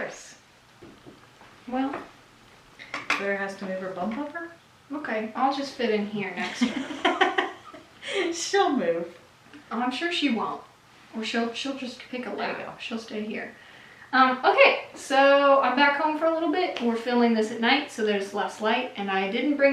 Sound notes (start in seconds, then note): 6.3 mom laughs